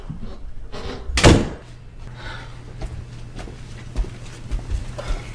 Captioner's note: door slamming